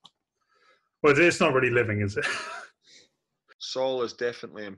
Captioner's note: laughs